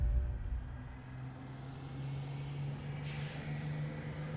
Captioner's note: bus drives